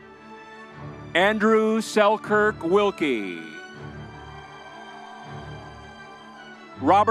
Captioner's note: crowd cheering